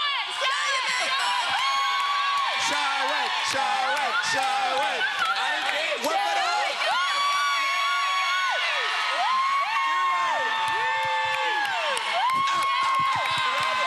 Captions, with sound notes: Show it. Show it. Show it. Show it. Show it. Show it. [audience cheers]